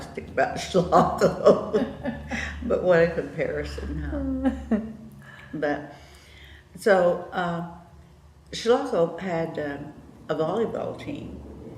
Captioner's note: laughter